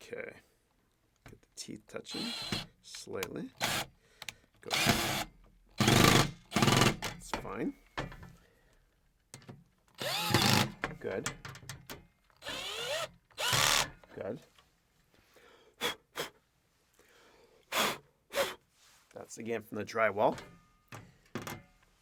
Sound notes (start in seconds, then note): 4.6 power drill whirring